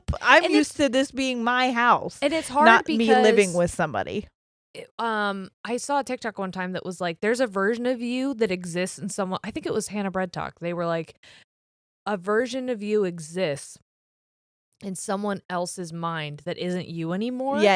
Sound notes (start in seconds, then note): none